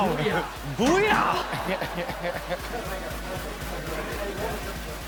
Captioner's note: laughs